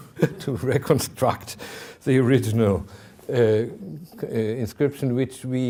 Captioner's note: chuckling